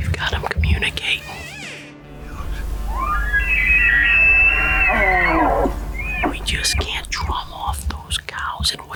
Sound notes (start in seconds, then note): 2.2 elk bugling; 6.5 whispers